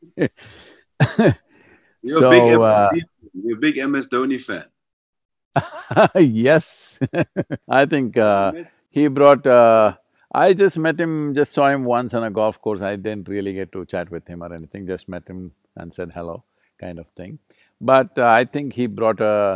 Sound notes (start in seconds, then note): 5.5 Sadhguru laughs